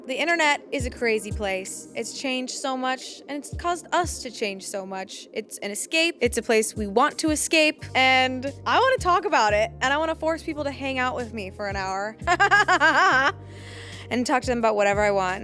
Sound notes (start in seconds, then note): 12.2 laughs